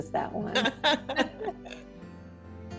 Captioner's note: both laugh; gentle music